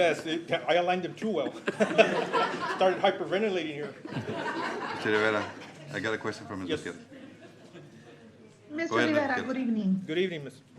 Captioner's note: laughter